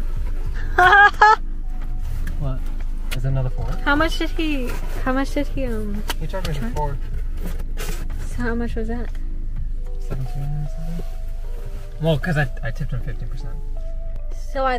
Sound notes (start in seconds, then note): 0.6 laughs